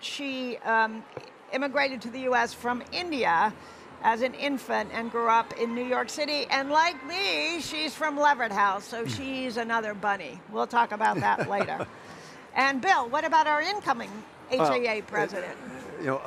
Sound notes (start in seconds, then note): 11.1 laughs